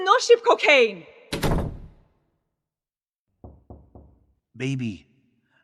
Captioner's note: door closes; knocking